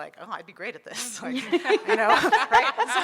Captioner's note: audience laughing